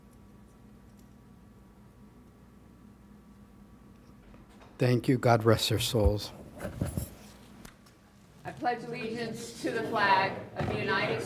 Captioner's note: moment of silence